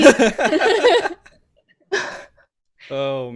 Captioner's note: laughs